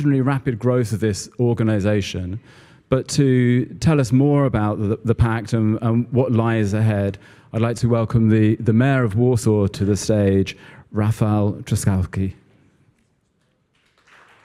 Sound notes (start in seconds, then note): 13.5 applause